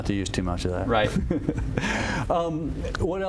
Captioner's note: laughter